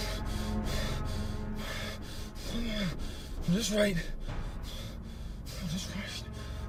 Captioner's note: panting